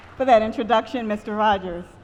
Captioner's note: applause